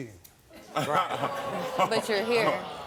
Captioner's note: audience exclaims